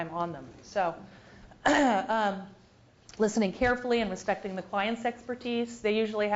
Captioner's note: cough